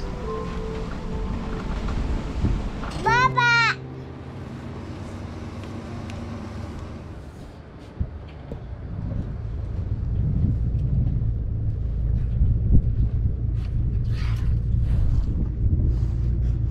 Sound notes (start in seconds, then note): 3.4 yells